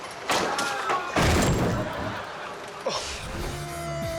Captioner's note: body thumping